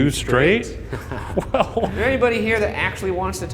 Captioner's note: laughter